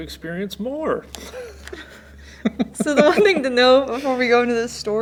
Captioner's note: laughs